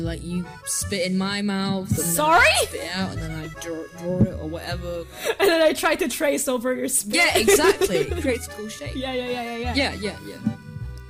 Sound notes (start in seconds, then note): 5.3 through a hoarse throat